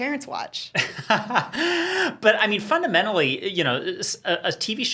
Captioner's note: laughs